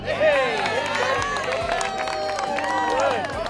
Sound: cheering

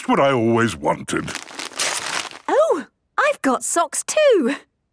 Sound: tearing

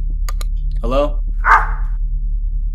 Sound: barking dog

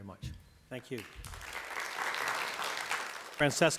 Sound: applause

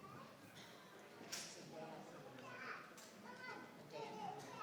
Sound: audience chattering

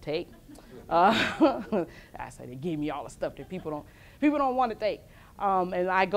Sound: laughs; laughs

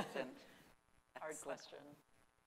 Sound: laughing

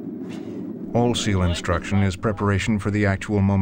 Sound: voiceover

